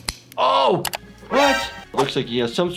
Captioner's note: bone cracking